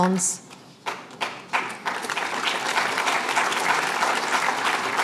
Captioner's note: applause